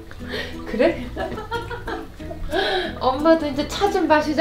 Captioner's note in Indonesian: tertawa